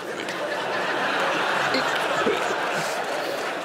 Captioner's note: laughter